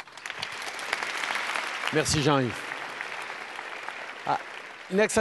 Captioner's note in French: Applaudissements